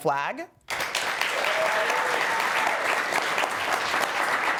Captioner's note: audience applauding